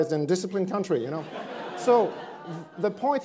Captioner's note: attendees laughing